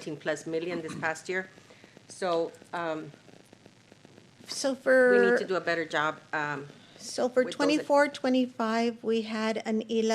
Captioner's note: clears throat